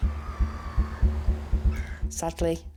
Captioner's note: birds squawk